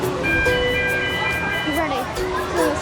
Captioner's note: alarm sounding